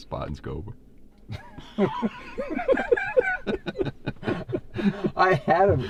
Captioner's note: laughing